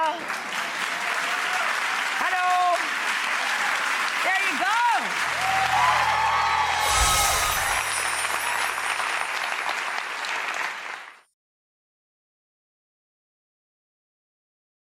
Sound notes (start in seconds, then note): 0.3 adience claps and hoots; 4.7 audience cheers